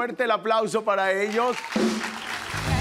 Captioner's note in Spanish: Ovación